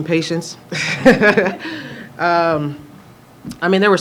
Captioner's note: laughter